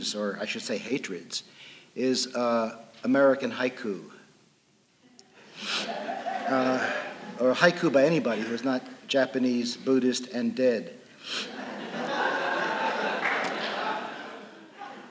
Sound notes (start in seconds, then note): 11.4 laughter